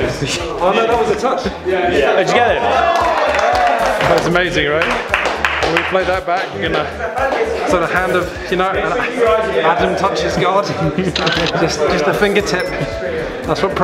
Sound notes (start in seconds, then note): 2.6 cheers and applause